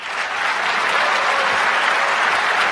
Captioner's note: applause